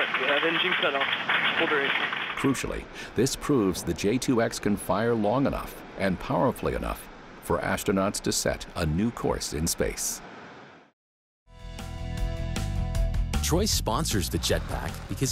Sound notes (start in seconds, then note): 1.6 talks faintly